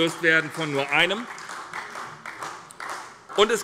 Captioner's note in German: Beifall bei der SPD